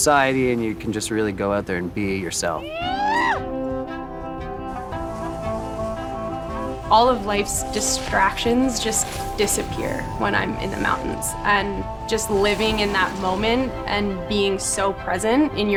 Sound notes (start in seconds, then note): 2.6 shrieking in glee